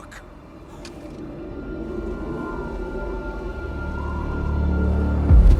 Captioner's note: wind howls; ominous music